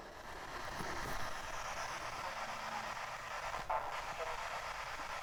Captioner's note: radio static